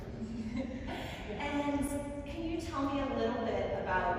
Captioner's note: laughs